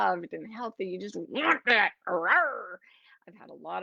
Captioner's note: growls